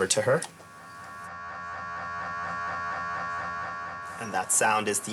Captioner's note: MRI machine whirring